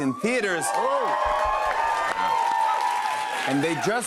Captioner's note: cheers and applause